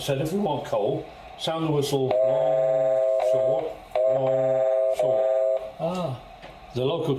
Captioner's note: electronic Whistle noise